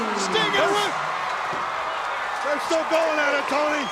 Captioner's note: crowd cheering